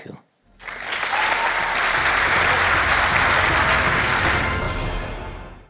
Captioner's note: applause